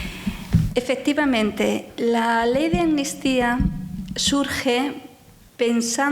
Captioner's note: speaking in foreign language